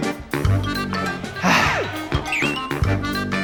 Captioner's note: sigh